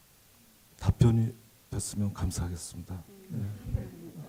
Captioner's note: speaking Korean